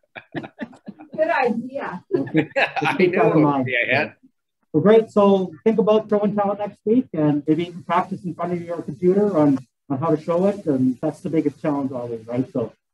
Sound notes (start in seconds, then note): 0.0 laughs; 2.1 everyone mumbles and laughs